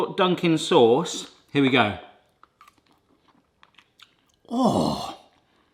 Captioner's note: munching